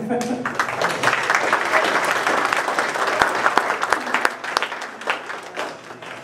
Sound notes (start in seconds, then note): 0.3 applause